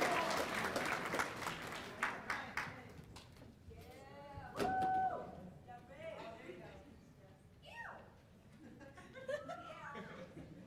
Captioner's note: cheers and applause